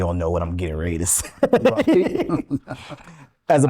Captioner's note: laughing